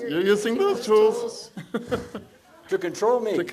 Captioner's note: laughs